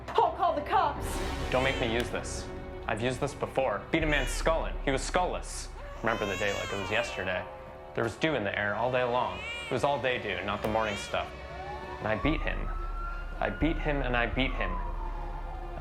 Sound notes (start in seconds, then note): 5.6 baby crying; 12.8 siren wailing